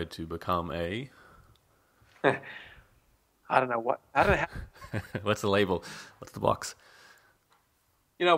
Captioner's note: chuckles